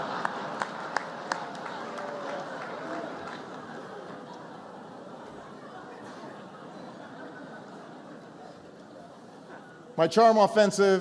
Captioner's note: laughter and applause